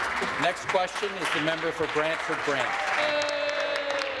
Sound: applause

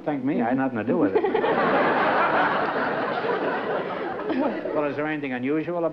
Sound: laughter

